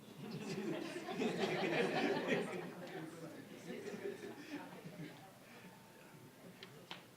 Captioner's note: all laughing